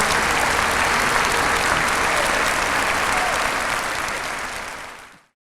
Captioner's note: applause